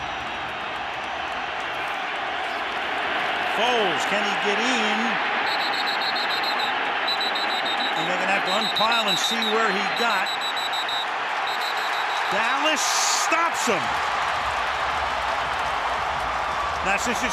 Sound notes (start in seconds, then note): 10.9 whistle blowing